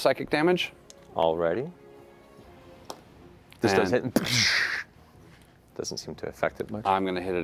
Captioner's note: gunshot